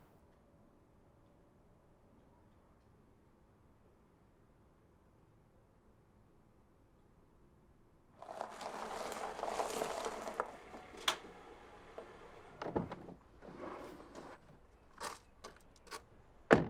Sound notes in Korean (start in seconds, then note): 8.2 자갈 위로 차 움직이는 소리; 12.5 뒷좌석에 누군가 타는 소리